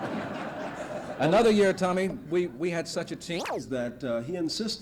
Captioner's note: laughter; camera noise